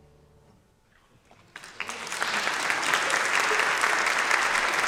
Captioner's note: applauding